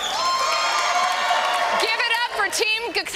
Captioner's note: cheering